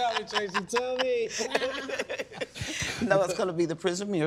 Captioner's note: laughing